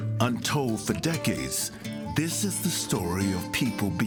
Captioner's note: voiceover